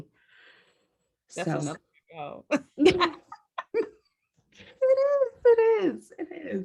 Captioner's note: laugh